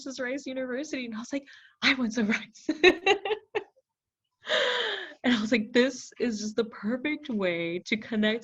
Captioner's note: laughs